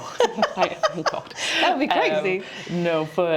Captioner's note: laughs